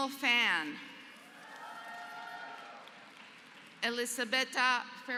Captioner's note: applause